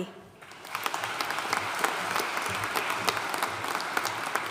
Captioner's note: audience applauding